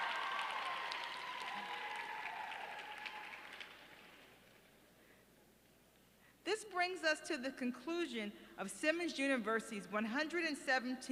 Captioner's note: applause